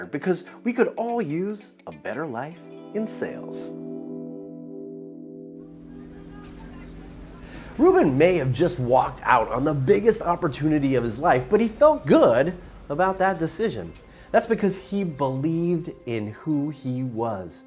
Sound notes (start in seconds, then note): 3.4 gentle music; 6.6 crowd murmuring